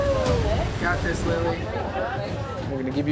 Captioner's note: group chattering